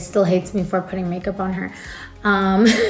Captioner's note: laughs